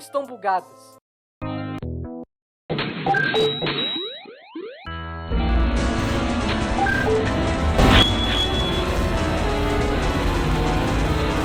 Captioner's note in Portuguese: Caos sonoro após tentar jogar o nível final do Stinkoman